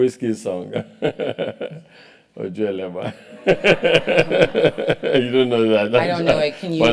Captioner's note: laugh